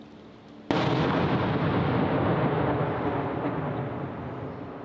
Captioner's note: loud explosion